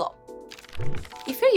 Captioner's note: fluttering